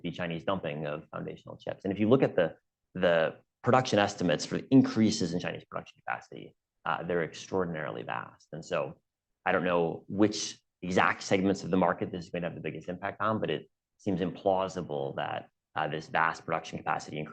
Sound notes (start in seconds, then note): none